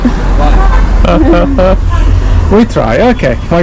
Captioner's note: laughs